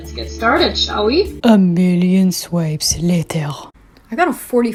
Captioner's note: in my Spongebob narrator voice